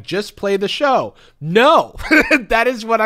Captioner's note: laughs